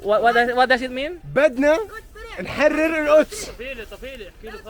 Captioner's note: arabic words